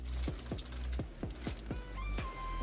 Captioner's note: crackling